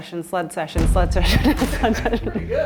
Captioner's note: laughs